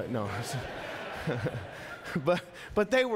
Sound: congregation laughing; laughing

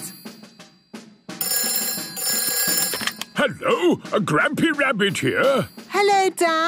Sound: phone ringing

